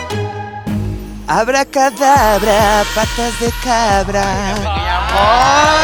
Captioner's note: humming a very familiar tune